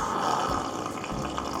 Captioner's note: sluuuuuuurrrppppp